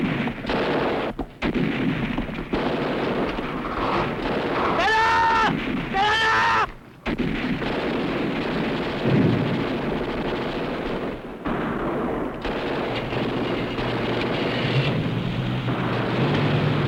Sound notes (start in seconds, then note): 4.8 non-english